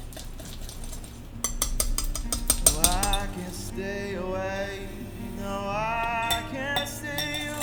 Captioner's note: haha